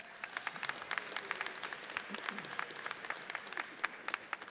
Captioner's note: audience applauds